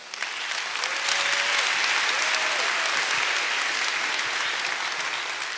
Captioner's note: applause